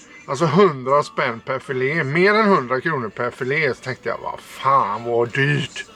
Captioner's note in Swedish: harklar sig